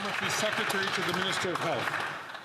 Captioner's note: some Applause